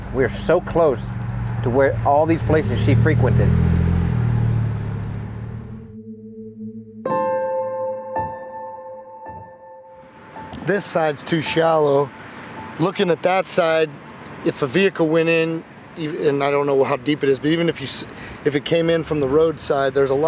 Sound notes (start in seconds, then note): 3.5 engine burbling; 5.7 slow somber music